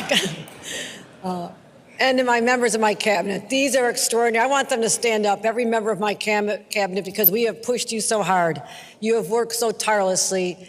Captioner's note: laughter